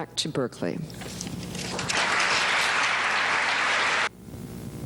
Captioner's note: applause